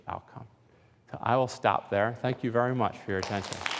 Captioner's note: applause